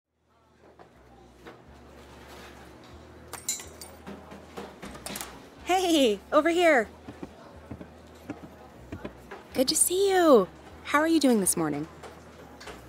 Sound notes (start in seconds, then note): 2.0 coffee Shop Noises, Doorway bell rings